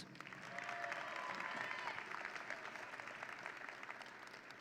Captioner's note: audience cheering